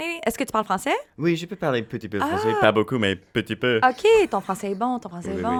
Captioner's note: speaking in foreign language